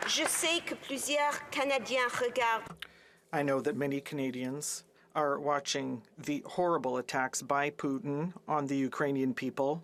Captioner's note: applause